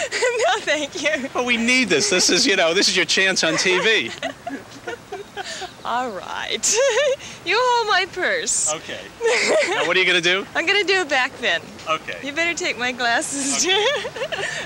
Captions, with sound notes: - No thank you. - But, we need this. This is your chance on TV. (laughing) - Alright. You hold my purse. - Okay. And what're you gonna do? - I'm gonna do a back bend. - Okay. - You better take my glasses.